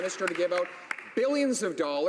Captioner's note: some Applause